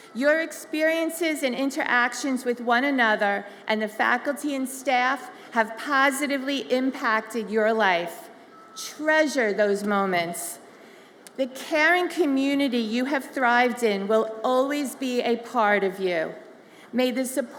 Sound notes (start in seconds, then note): none